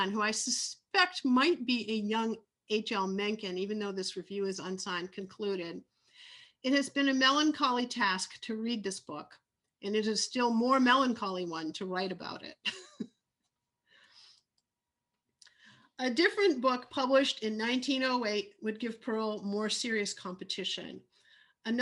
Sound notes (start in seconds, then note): 12.6 laugh